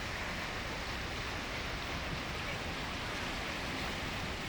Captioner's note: water rushing